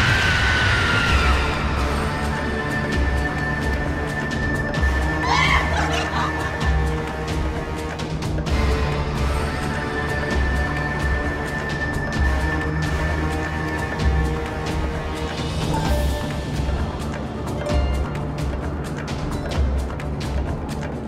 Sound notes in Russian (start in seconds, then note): 5.2 торжествующе смеется